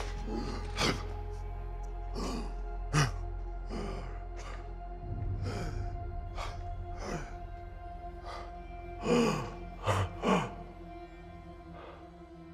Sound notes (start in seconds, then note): 2.1 groanroans; 8.1 gasping